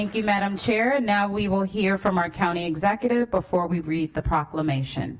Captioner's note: applause